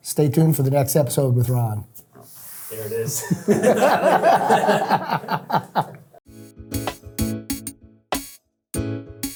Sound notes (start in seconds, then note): 3.2 all laughing; 6.2 upbeat music